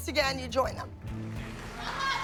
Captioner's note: applause